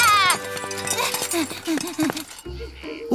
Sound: panting

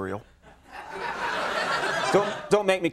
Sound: audience laughing

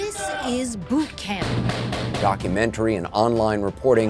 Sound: guns firing

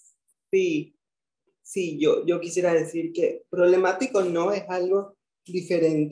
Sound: speaking in foreign language

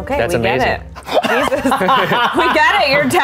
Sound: laughs

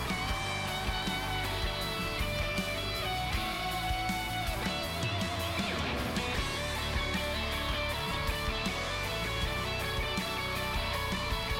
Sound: cheering

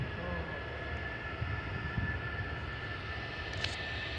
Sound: engine roaring

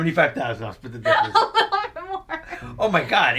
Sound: laughing

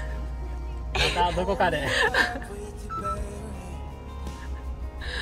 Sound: haha

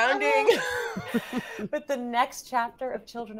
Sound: everyone laughs

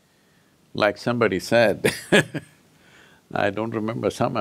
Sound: laughs

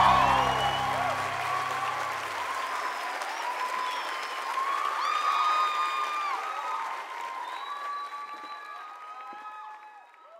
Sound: termina música, gritos y aplausos; gritos y aplausos

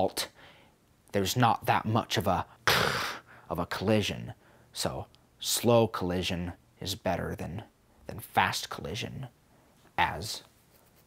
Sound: kshhh

